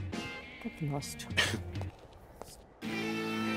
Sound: chuckles

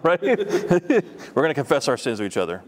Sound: laughter

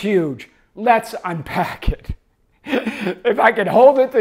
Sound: laughs

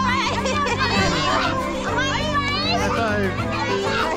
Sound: laughing

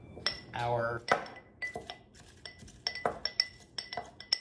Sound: glass clinking

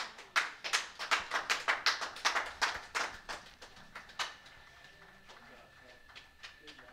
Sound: applause

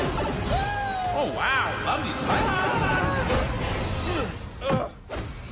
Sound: scream mario

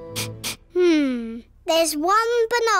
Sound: sniffs

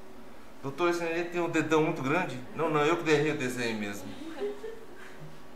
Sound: laughs

